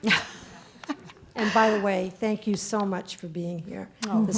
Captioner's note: laugh